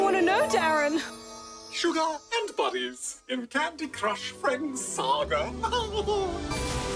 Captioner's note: laughs